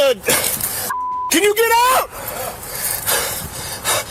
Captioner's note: beep